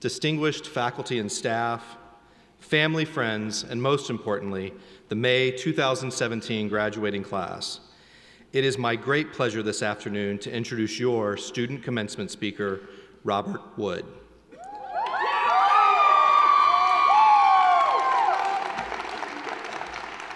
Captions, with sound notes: distinguished faculty and staff, family friends, and most importantly, the May 2017 Graduating Class. It is my great pleasure this afternoon to introduce your student commencement speaker, Robert Wood. (audience cheering)